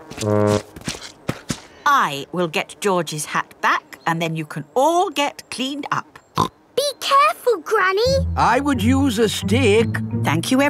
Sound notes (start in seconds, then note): 6.5 snorts